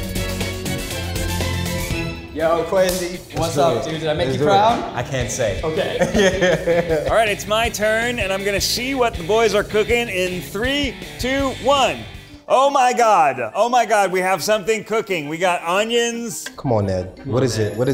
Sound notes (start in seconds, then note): 0.1 bright music; 5.7 both laughing